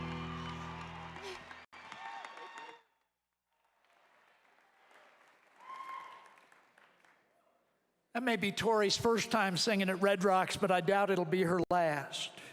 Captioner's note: applause